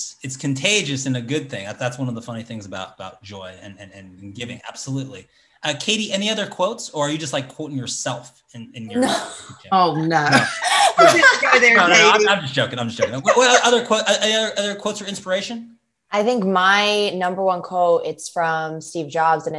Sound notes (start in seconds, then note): 10.0 laughs